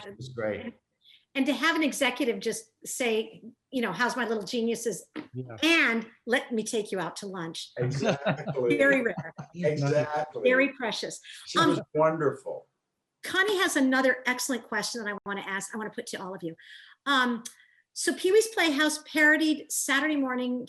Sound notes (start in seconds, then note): 7.8 laughing